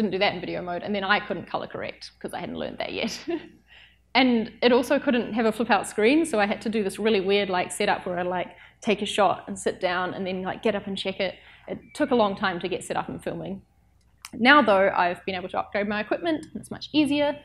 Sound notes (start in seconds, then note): 4.0 laughs